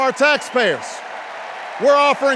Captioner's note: cheers and applause